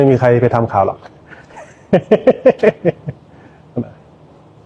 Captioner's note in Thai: เสียงหัวเราะ